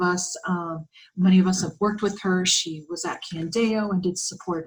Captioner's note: Arabic